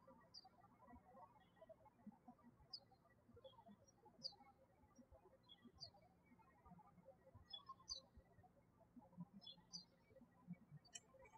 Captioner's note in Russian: птички щебечут